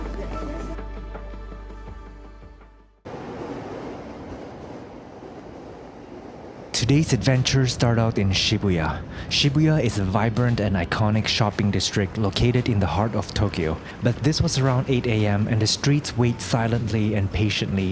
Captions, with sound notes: (wind blowing) Today's adventure start out in Shibuya. Shibuya is a vibrant and iconic shopping district located in the heart of Tokyo. But this was around 8 a.m. and the streets wait silently and patiently